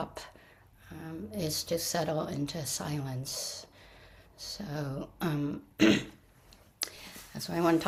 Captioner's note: clears throat